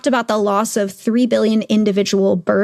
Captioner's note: none